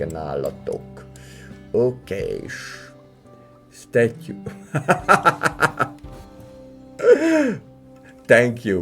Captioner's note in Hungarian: Nevetés